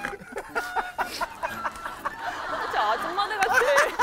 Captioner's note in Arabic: الضحك